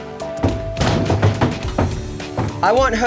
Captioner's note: clattering